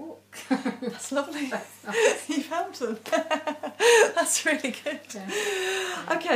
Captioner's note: both laughing